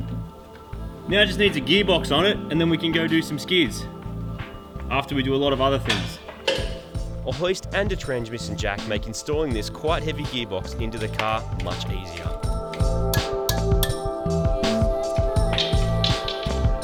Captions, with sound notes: Now, it just needs a gearbox on it and then we can go do some skids. After we do a lot of other things. (metallic clattering) "A hoist and a transmission jack make installing this quite heavy gearbox into the car much easier." (tapping) (tools clattering)